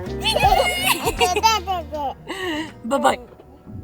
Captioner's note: babbles